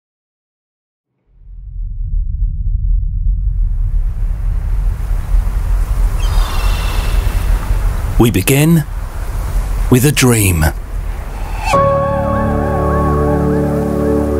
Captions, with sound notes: (ocean waves breaking) (birds singing) - We begin with a dream (serene music)